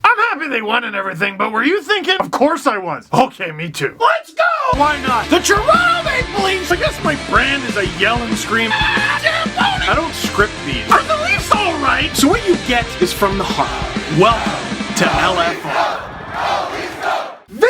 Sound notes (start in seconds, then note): 4.7 rock music plays throughout intro; 8.7 screams; 16.1 Go Leafs Go chants